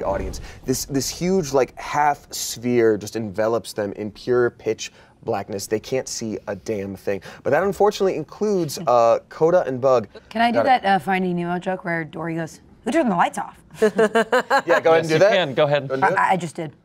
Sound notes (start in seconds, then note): 13.7 laughs